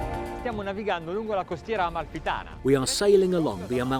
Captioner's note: speaking foreign language